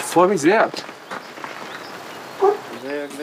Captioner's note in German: Vogelzwitschern